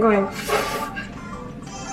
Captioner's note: gasps